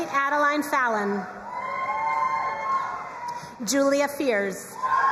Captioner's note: crowd cheering and applauding; crowd cheering and applauding